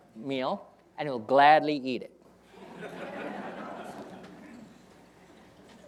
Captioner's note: audience laughing